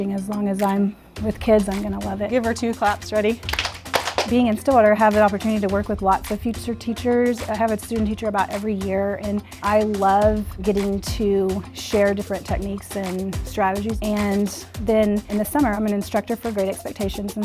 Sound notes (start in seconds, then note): 3.4 children clapping